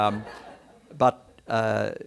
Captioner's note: background chuckles